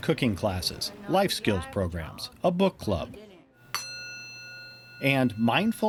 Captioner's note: metal dings